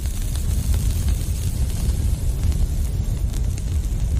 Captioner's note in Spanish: sonido de fuego